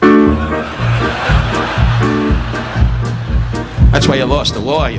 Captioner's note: audience laughing